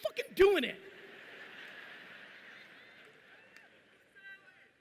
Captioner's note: audience laughing loudly